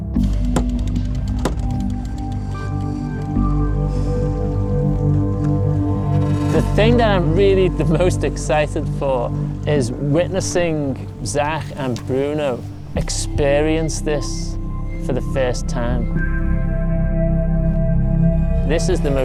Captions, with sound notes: (winding and knocking) (dramatic music) The thing that I'm really the most excited for, is witnessing Zach and Bruno experience this for the first time.